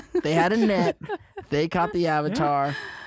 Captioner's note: laughter